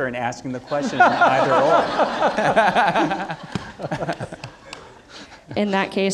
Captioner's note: audience laughing